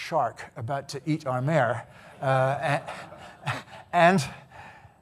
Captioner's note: audience laughing